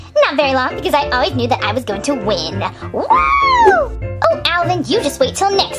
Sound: snickers; cheers

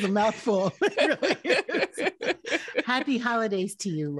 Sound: both laughing

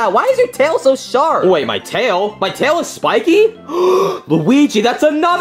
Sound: gasps

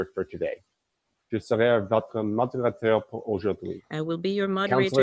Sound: speaking in French

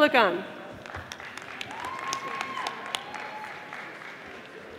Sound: audience applauding

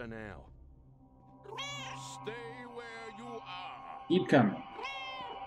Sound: Hodge meows; Hodge meows

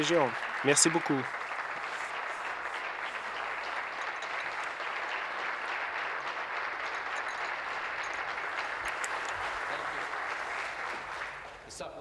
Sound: applause

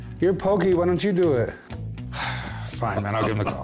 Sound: sighs deeply; chuckling

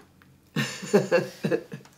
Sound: laughing

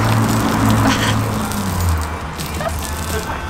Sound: laughs

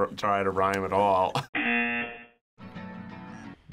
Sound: buzzer

